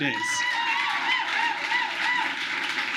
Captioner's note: applause